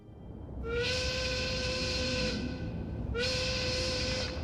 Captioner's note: whistle blowing